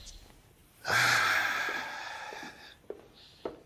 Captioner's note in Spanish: Gancho suspira